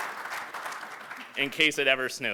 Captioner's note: applause